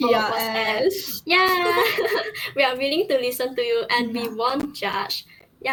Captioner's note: laughs